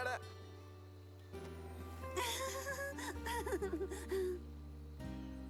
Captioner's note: nervous chuckle